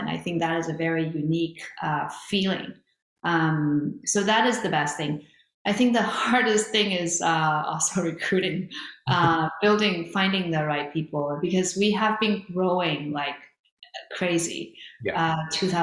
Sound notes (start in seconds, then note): 9.0 chuckles